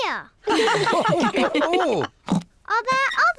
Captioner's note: all laugh